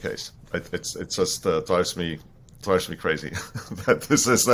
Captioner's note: chuckles